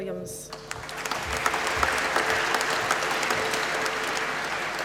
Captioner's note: applause